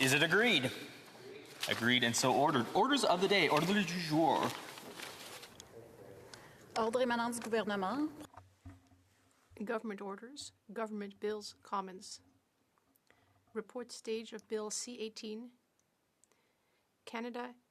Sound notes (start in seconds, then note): 5.2 in Unison; 9.8 speaking French